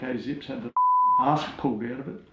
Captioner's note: beep